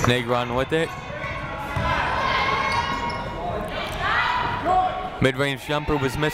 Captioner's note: people shouting in the crowd